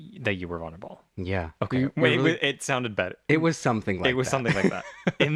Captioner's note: laugh